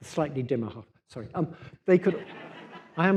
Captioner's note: laughter